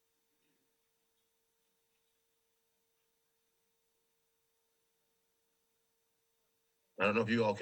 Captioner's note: silence